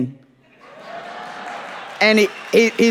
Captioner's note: audience applauding